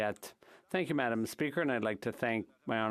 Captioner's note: speaking in French